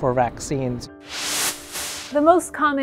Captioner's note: screen whooshing